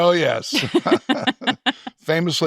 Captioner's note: both chuckling